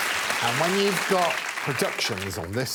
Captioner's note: applause